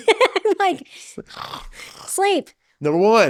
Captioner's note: laughs